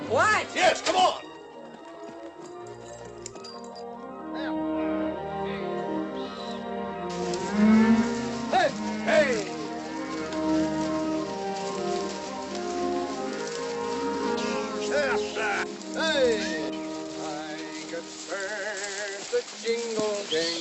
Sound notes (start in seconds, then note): 7.0 cattle mooing; 8.2 men shouting